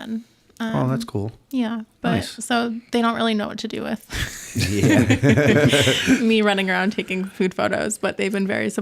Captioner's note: laughter